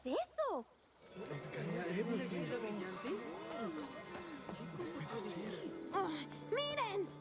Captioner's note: excited chatter